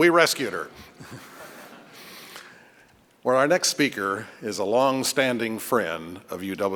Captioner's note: laughter